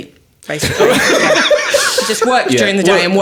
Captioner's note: all laughing